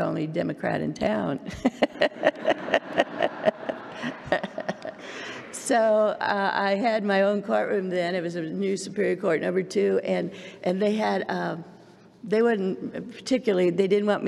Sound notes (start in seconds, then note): 1.6 laughs